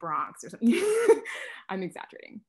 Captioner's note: laughs